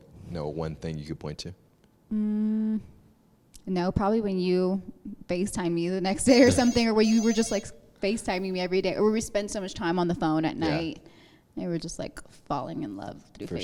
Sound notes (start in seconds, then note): 6.4 phone rings